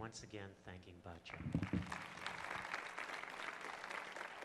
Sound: applause

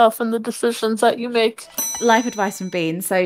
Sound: bell dings

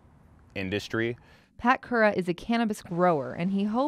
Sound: voiceover

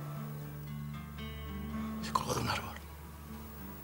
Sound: whispering

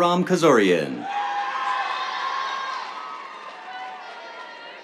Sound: cheers, applause

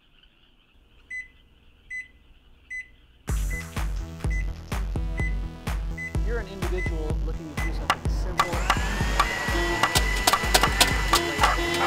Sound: SFX: microwave… music… television announcer… other sounds added

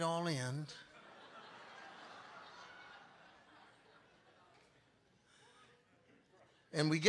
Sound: congregation laughing

